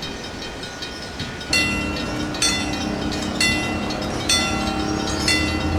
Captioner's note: wig wag ringing